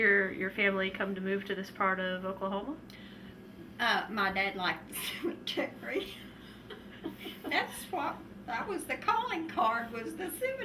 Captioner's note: laughter